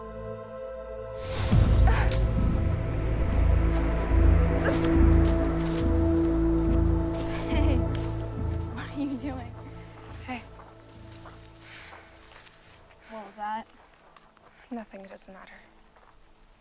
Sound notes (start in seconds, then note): 1.5 dramatic music; 2.5 Scarlet grunting